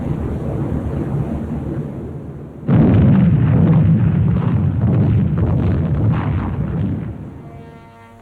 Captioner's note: aircraft engines and heavy bombing